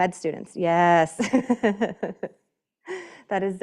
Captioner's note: laughing